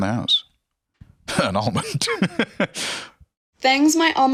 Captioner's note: laughs